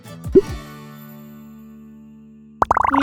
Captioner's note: upbeat music; bubble pops; bubbles popping